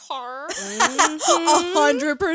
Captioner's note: laughs